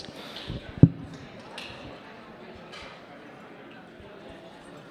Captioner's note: attendees chatting